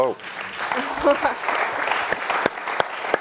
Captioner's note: applause